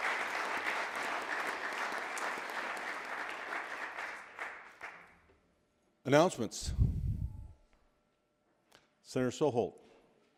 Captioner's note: applause